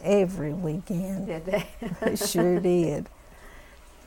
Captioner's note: laughter